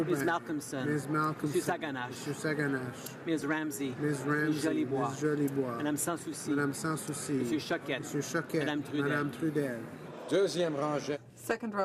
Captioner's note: speaking French